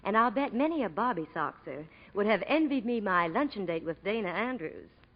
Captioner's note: none